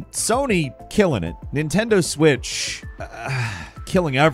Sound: sighs

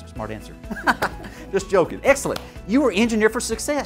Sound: laughing

